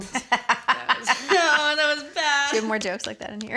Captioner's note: laughter